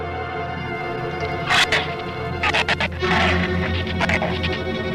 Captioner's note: shrew snarls